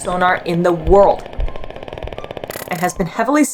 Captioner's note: dolphin echolocation vocalizations